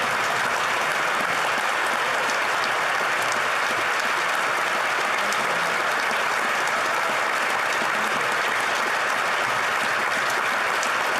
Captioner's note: applause